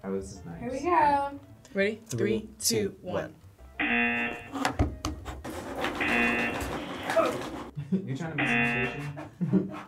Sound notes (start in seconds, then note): 3.8 buzzer; 6.0 buzzer; 8.4 laughs